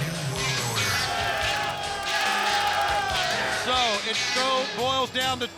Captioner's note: spectators cheer